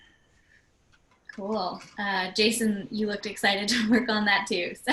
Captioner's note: laugh